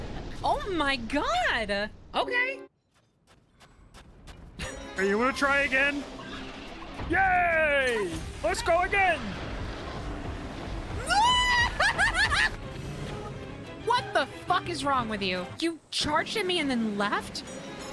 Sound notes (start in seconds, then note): 4.8 silly Voice; 7.0 silly Voice